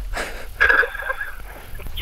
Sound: laughing

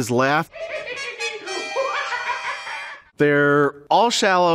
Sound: The Joker laughs

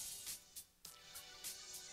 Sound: none

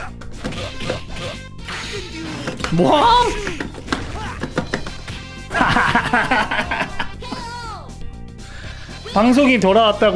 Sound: laughs

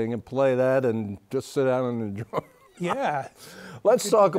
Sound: laughs

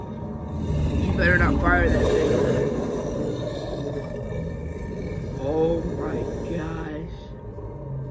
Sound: Godzillasaurus growling

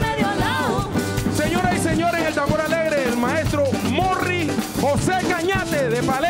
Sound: speaks in Spanish

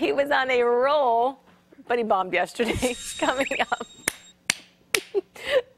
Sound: laughter

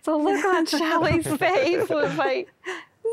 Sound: laughter

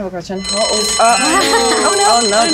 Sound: bell ringing

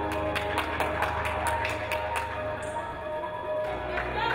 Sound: audience applauding

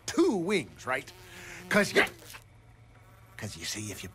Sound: fly buzzing

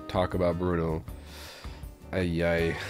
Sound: winces

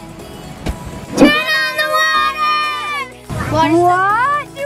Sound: girls In Unison

